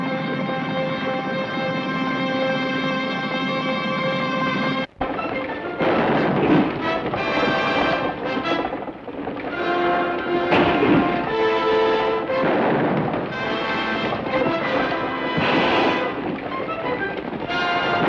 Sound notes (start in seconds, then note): 0.0 dramatic orchestral music; 0.3 hooves thunder; 5.1 guns fire; 10.1 gun fires